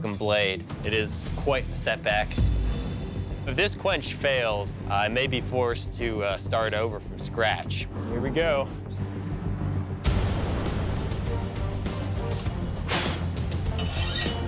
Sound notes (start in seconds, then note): 12.7 blowing; 13.6 blade scraping